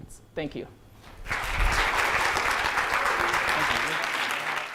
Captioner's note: crowd applauds